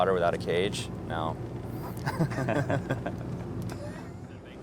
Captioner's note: both laugh